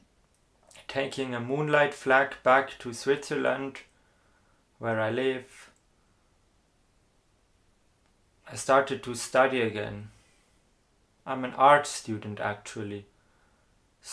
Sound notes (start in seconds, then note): none